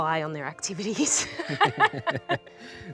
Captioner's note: both laugh